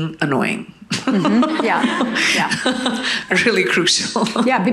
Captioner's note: audience laughing